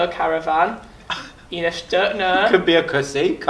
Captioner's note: laughs